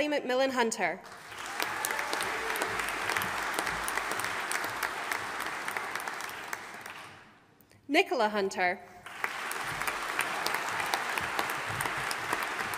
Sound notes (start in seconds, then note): 1.0 audience applauding; 9.0 audience applauding